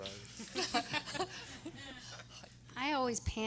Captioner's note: everyone laughing